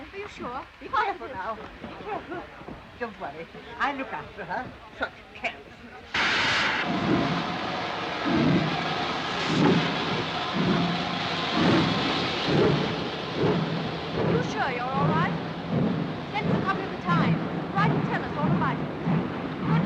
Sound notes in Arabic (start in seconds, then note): 5.9 صوت محرك القطار